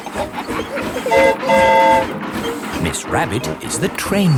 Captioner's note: train whistle toots